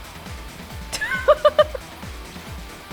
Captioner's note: chuckles